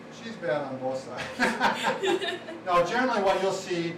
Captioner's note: all laughing